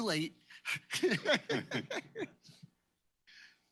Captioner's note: laughter